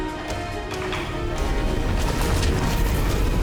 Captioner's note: gunshot